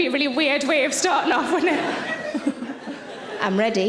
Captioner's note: laughing